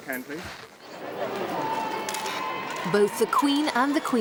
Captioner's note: cheering; cameras clicking